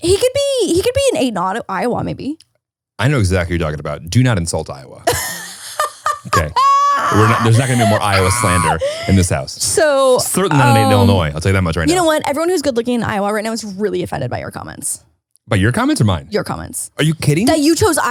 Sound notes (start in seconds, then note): 5.0 laughs loudly